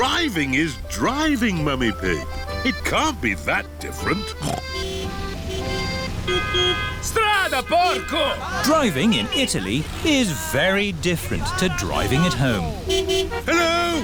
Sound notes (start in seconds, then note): 4.3 snorts; 5.3 driver yells in italian; 5.3 horns honking; 13.9 horns honking